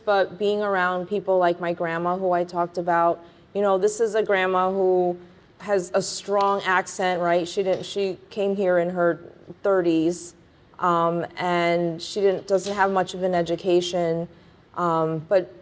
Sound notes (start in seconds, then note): none